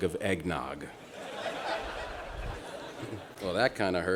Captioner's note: laughter